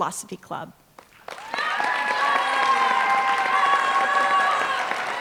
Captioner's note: applause